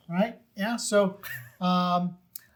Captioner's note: laughing